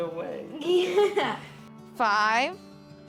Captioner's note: laughs